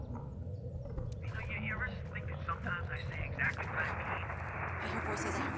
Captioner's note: Harnet's voice on walkie-talkie